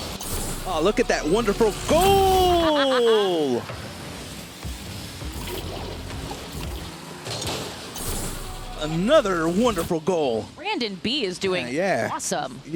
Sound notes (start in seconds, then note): 2.5 laughs